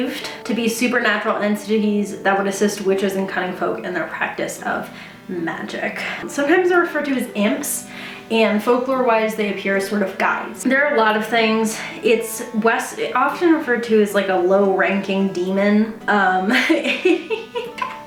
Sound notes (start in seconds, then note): 16.5 chuckles